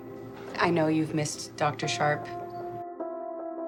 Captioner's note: voiceover